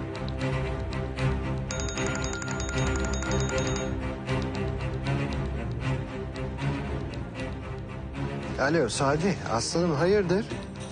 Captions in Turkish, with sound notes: [telefon çalar] Alo Sadi, aslanım hayırdır?